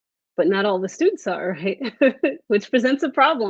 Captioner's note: laughs